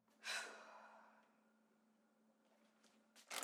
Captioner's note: Jen sighs